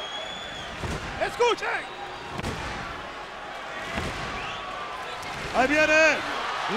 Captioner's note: applause